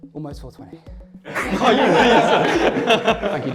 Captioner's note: laughter